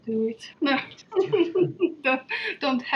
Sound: laughing

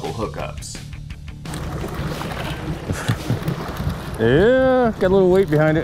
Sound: splashing

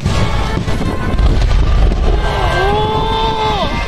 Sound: laughs

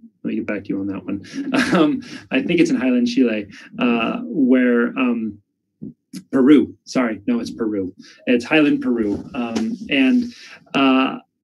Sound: laughs

